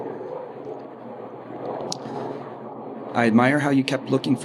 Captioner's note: airplane engine roaring